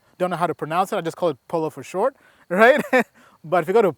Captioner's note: laughs